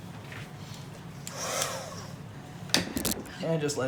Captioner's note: heat gun whirring